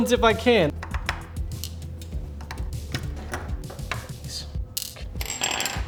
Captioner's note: controller parts snapping together